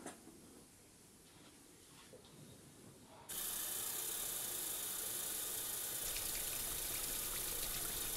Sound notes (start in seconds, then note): 3.3 water running